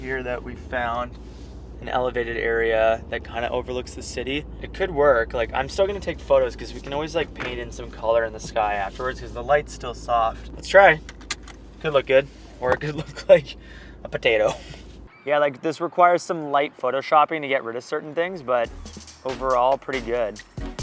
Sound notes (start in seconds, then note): 11.0 seat belt clicking; 20.5 hip hop music